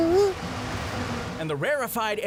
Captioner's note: engine idling